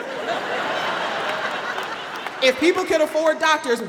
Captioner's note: audience laughing